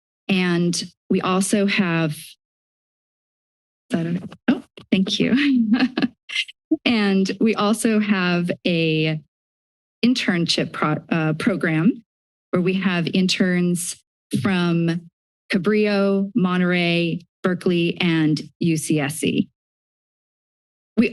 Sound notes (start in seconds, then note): 0.0 silence; 2.9 silence; 5.2 chuckles; 19.7 silence